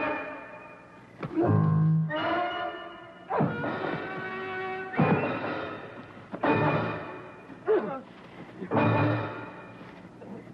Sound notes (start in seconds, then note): 1.3 grunting